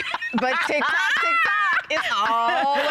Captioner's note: laughter